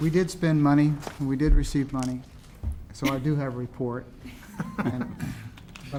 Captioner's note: laughter